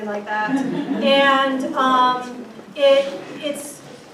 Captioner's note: crowd laughs